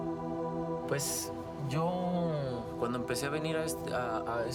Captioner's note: speaking Spanish